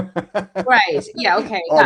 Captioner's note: laughs